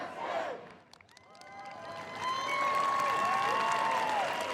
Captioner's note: applause and cheers